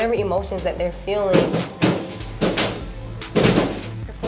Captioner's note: smashing